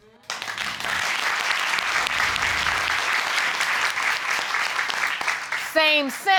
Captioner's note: audience clapping